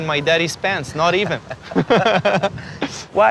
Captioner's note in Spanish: risas